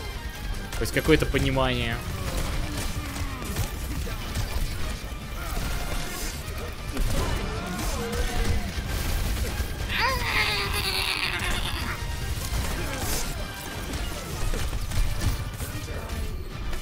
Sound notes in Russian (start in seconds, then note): 9.9 умирающие звуки